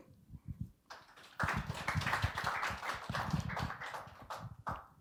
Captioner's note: audience applauding